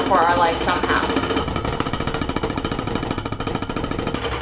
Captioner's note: rattling sound